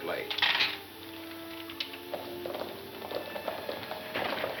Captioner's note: horses trot